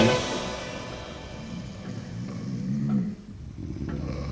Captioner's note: song ends, sounds of snoring